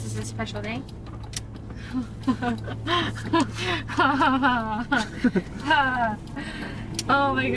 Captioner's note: laughs